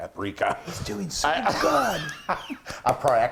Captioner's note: laughing